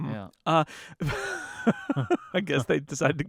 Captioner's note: laughing